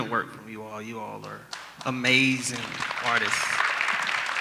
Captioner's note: audience applause